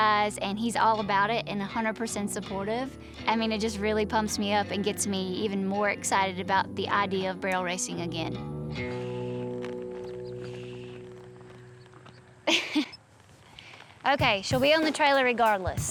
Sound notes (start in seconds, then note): 12.4 chuckles